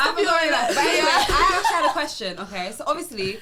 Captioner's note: laughs